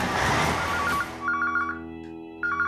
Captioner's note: engine Running; phone Ringing